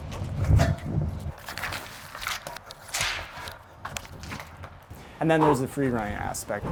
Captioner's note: feet on pavement